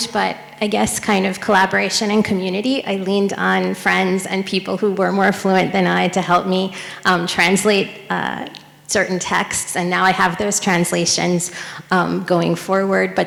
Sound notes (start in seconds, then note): none